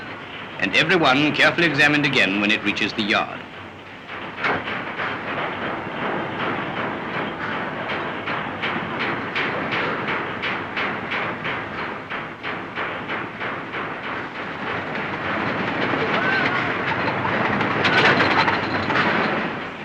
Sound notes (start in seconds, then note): 3.9 clattering